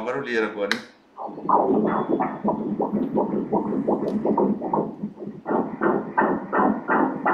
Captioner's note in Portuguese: batimentos cardíacos